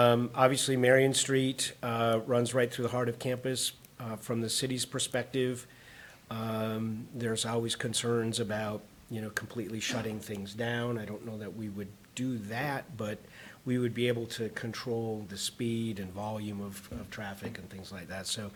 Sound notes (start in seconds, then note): none